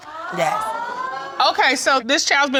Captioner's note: audience gasps